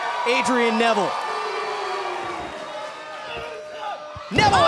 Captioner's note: cheers & boos